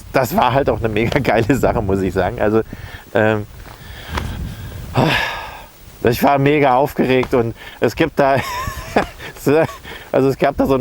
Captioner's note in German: lacht